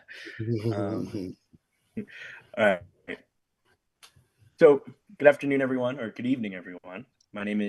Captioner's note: laughs